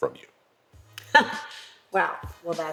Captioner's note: laugh